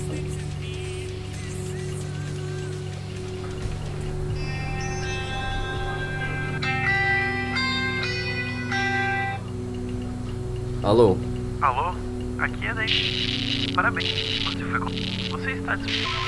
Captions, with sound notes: [phone rings] Hello? Hello! I'm from __! C̵o̴n̵g̷r̸a̷t̵u̴l̶a̴t̷i̵o̷n̸s̷!̷ You've been hired! W̵o̴u̴l̷d̴ ̸y̷o̸u̷ ̷.̸.̴.̴ be avail-